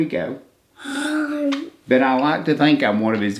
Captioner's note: moans